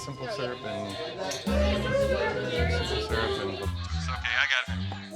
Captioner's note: bar chatter